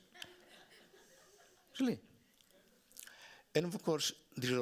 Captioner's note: audience laughing